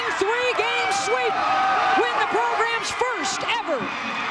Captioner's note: cheering